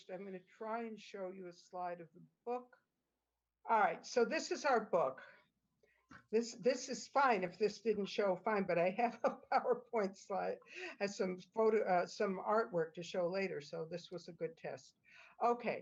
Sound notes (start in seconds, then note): 9.2 laughter